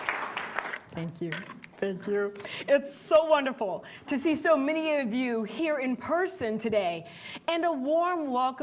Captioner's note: applause